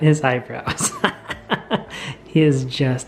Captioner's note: laughing